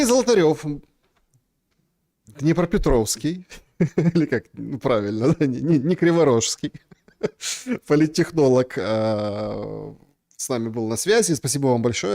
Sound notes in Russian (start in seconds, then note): 6.4 смех